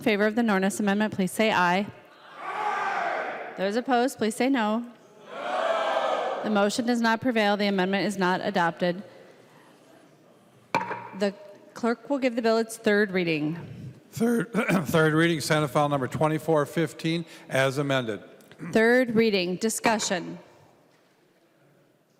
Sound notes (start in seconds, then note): 7.9 chorus of ayes; 17.5 gavel